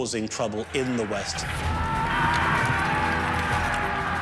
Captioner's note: men shouting